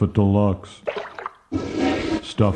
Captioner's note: toilet flushes